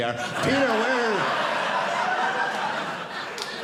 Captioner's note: audience laughing